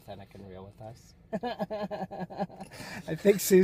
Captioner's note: laughs